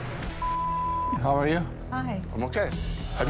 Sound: beep

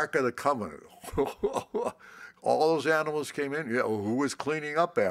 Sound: laughs

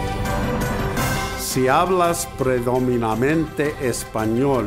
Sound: foreign language

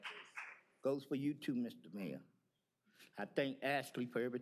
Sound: cheers and applause

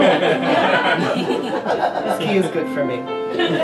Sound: crowd laughs

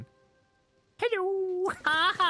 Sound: silly Voice

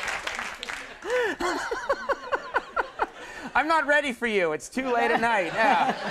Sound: laughs

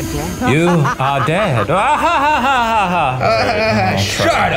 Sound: laughs

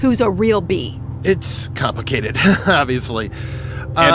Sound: laughs

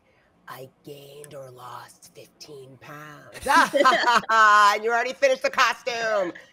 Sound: laughs

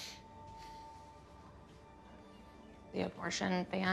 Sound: sniffles

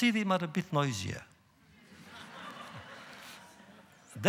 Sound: laughter

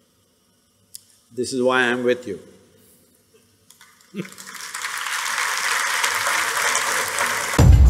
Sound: applause/Laughter

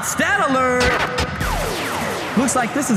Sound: record scratch

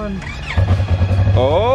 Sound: engine starting

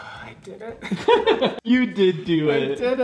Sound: giggling

